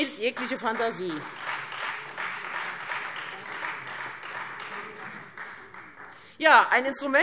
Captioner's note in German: Beifall Freie Demokraten